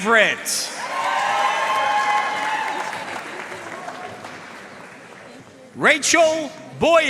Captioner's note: audience cheering and applauding